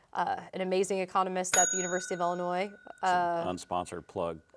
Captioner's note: bell dinging